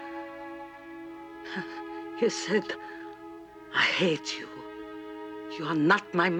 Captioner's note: chortles